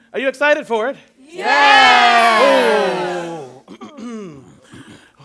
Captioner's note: clearing throat